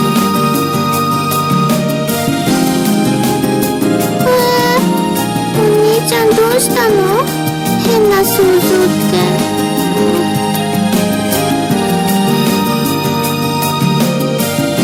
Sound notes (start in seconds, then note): 4.4 yawning